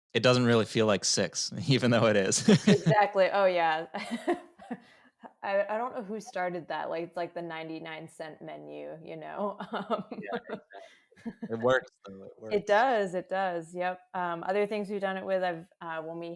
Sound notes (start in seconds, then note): 1.8 laughs